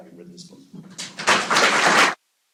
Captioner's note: applause